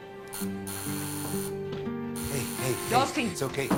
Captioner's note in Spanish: Suena el timbre